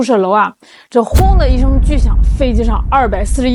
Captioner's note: boom